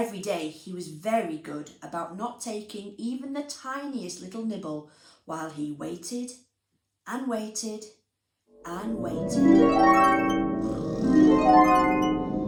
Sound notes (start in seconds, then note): 8.6 magical chime; 10.6 snoring